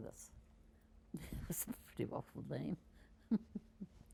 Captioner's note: laughing